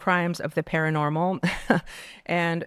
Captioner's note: laughing